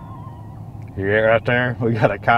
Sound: coyote barking in distance

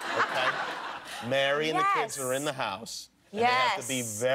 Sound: laughter

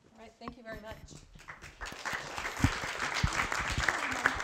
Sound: applause

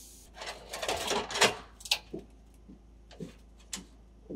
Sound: ladder rattling

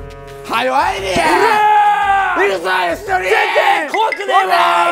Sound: shouting louder from the behind

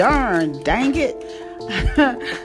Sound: laughs

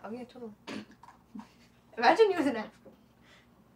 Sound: snorts

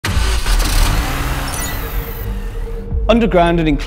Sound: car Engine Starting

